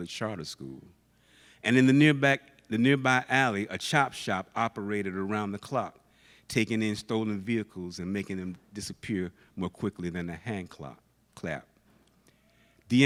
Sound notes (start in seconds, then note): none